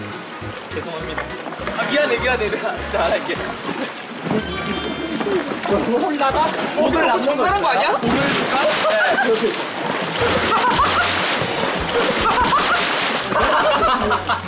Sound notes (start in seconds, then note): 11.8 haha